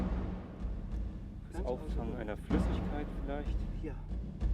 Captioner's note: speaking German